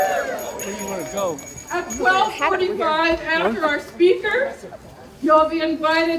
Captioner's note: cheers